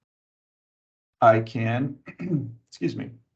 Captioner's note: clears throat